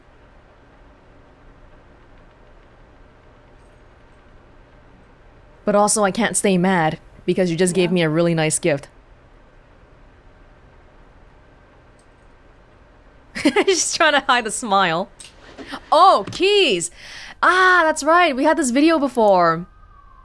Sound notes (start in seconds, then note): 13.3 chuckles